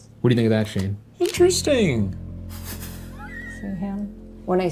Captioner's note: Ryan laughs